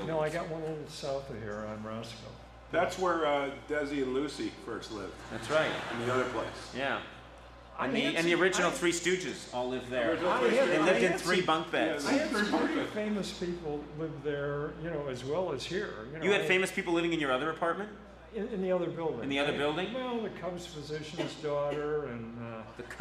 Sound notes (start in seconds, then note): 5.2 audience laughs